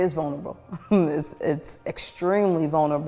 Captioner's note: woman chuckles